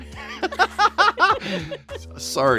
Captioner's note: laughing